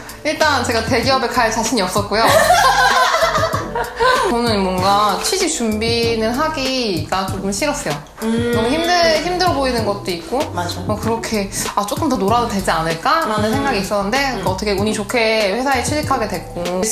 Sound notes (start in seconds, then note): 2.2 laughing